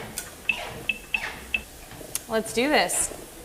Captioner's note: squeaking